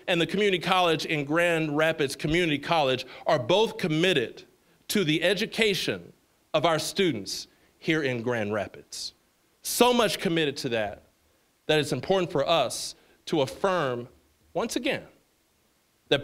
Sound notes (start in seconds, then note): none